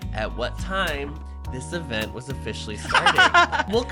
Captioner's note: laughs